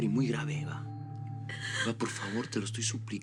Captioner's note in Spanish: Sollozos